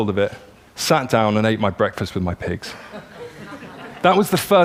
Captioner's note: laughter